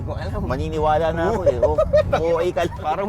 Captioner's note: laughing